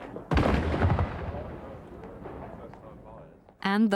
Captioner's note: exploding